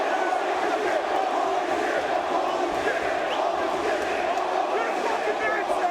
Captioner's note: spectators chanting "Holy Shit!"